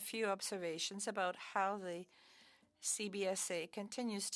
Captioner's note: speaking French